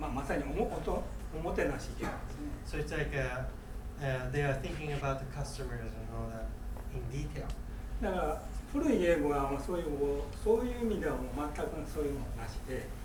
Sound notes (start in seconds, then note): 0.1 speaking in foreign language; 2.2 coughing; 8.1 speaking in foreign language